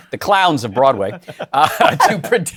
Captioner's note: chuckling